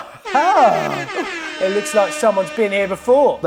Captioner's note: electronic alert